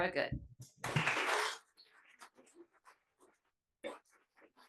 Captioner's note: attendees applauding